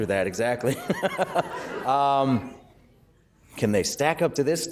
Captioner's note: laughter